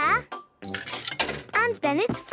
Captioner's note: coin tumbling